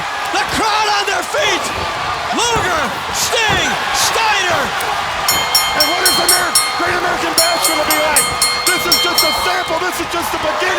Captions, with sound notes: The crowd on their feet! Luger, Sting, Steiner. (bell ringing) And what is The Great American Bash gonna be like? This is just a sample! This is just the beginning!